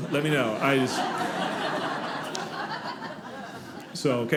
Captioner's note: audience laughing